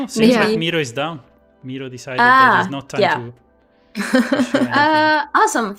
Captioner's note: laughs